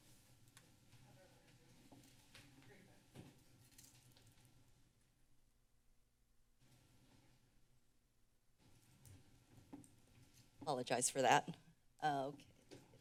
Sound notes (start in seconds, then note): 1.2 silence